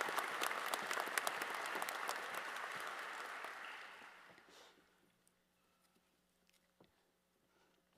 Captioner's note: applause